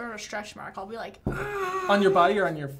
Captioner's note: grunting